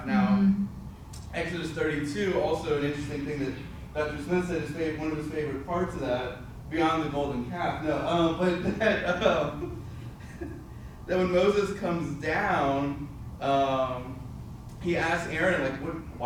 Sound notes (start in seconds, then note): 8.5 laughs